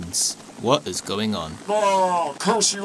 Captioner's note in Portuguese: Voz Normal